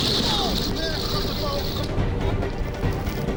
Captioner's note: wind whooshing; wind drowns out speaker; intense music